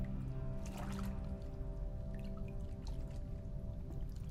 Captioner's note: water splashing